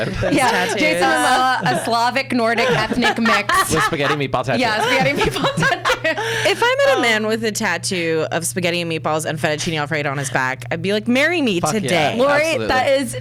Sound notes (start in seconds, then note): 6.0 laughs